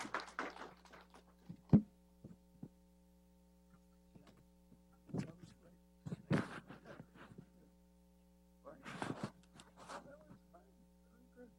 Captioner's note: applause